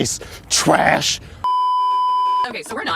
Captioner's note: beeeeeeeeeeeep